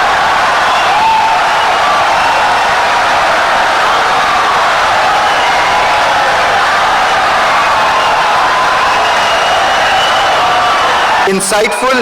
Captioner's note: wild applause and cheering for 17 seconds